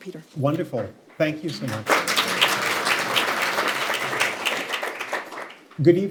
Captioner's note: applause